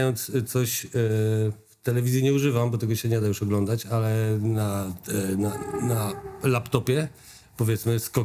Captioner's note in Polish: dzwięk przjeżdżającego pociągu